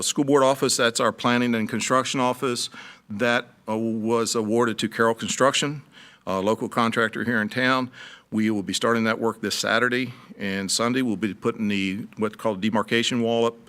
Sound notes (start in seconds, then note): none